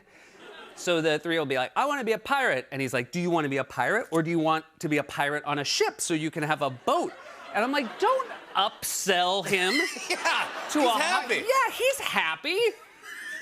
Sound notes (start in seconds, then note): 9.6 laughter